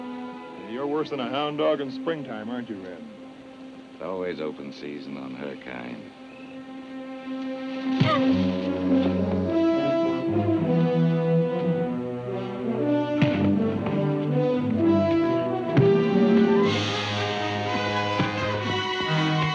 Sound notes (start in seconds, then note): 8.0 Reb grunts; 9.2 exciting music; 9.2 fists thunk